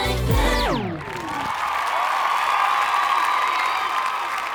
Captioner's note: crowd cheering